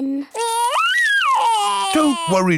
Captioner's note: crying